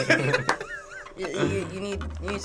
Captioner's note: React laughs; laughs